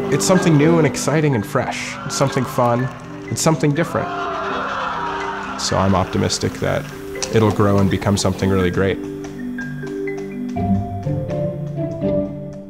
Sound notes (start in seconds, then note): 4.3 audience exclaims; 9.6 upbeat music